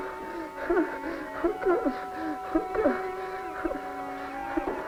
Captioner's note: sobbing; deep panting